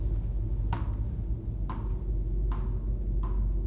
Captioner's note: bouncing